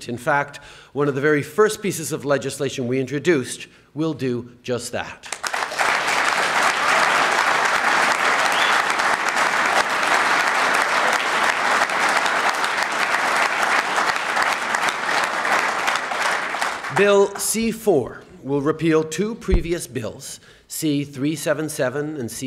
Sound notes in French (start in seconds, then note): 9.6 Applaudissements